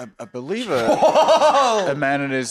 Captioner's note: laughing